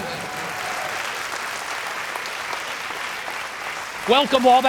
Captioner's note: applause